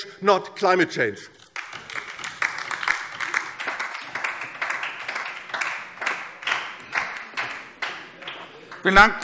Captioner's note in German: Beifall DIE LINKE